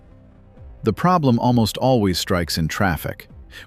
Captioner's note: emphasis